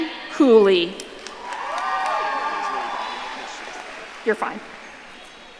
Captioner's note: audience cheering